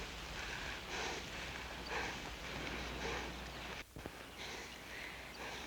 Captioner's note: both panting